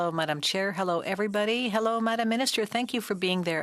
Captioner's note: speaking French